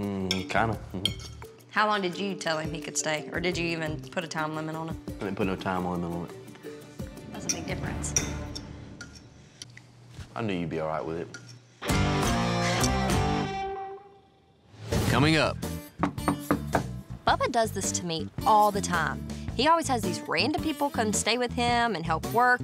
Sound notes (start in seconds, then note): 16.0 knock on door